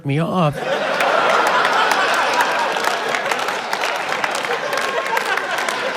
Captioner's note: laughter